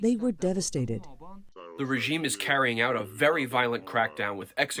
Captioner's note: through translator